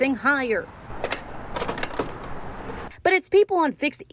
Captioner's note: ha clattering